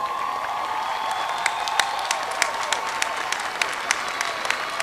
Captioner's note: cheering and applause